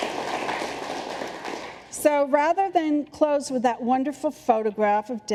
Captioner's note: applause